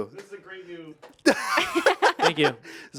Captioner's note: laugh